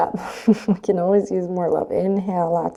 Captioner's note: chuckles